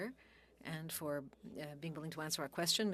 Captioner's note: speaking French